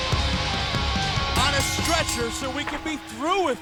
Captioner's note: bell dings